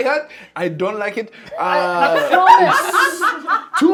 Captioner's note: laughing